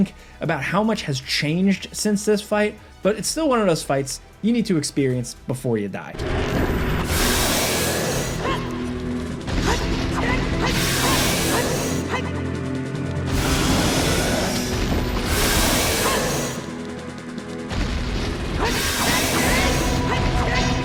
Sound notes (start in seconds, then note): 6.2 Ganon grunting; 8.7 Link grunting